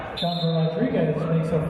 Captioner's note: referee's whistle